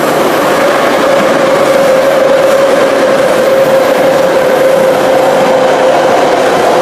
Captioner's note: braking